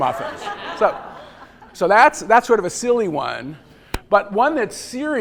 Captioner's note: laughter